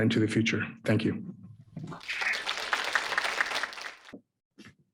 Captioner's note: audience applauding